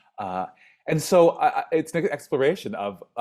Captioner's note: stammers